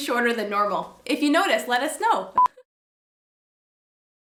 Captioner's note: beep